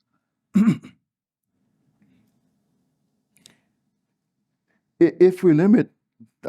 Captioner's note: cough